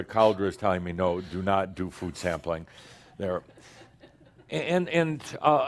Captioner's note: a few chuckles